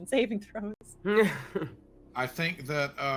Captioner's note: laughing